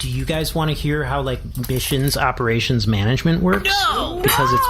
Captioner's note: terrified